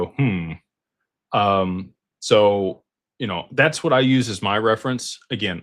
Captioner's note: clears throat